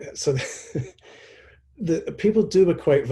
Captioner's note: chuckles